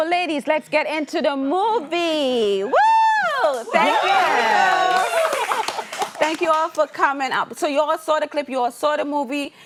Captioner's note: cheering applause